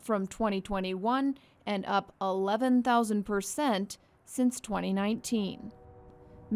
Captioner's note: train whistle howls